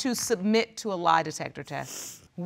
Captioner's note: sniffles